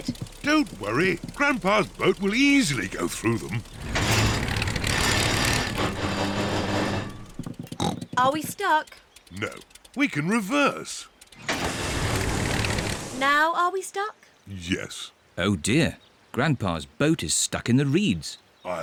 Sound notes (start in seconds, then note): 4.0 clunks and splutters; 7.7 snorts